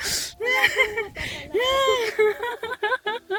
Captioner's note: laughter